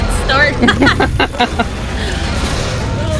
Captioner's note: laughing